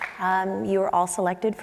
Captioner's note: applause